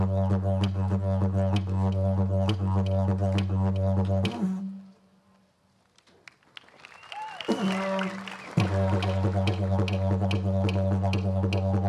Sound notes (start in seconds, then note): 6.4 cheering, applause; 8.9 didgeridoo, clap sticks resume